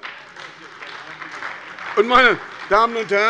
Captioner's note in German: Beifall bei der SPD